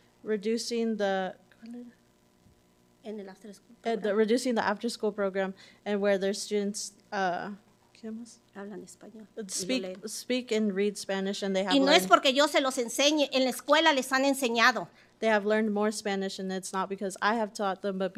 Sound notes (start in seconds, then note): 1.6 whispers in Spanish; 3.5 speaking Spanish; 8.0 whispers in Spanish; 9.8 speaking Spanish; 13.4 speaking Spanish